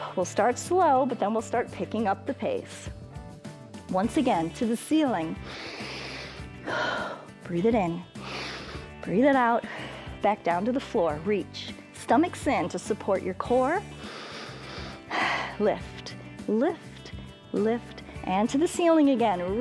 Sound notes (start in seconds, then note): 5.4 inhales and exhales; 8.1 exhales; 8.2 inhales; 13.9 inhales and exhales